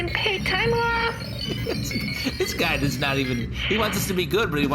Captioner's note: happy sparkly pinging sound; laughing